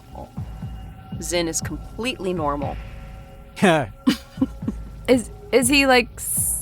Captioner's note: scoffs